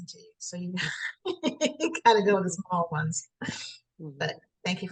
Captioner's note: laughs